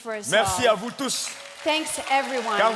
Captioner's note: speaking in French